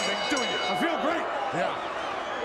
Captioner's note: bell rings